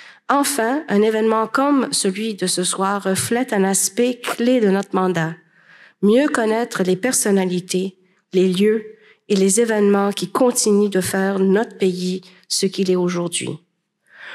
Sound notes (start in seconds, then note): none